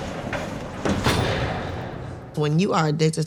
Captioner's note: door clanks